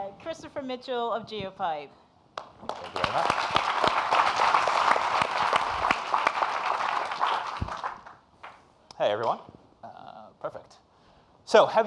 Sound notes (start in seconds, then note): 2.4 audience applauding